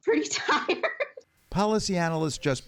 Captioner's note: laughter